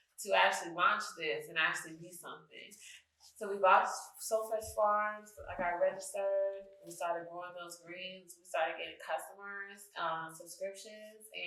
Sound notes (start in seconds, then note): none